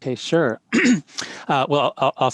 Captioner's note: clears throat